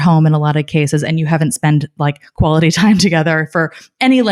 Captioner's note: laughing